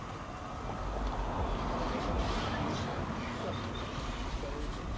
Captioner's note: car whooshes